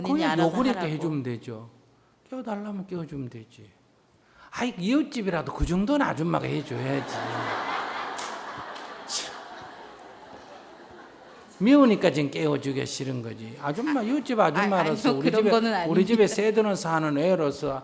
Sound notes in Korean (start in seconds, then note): 10.3 청중 웃음